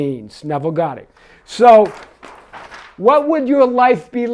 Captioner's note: paper rustling